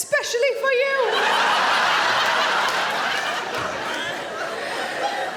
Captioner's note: audience laughing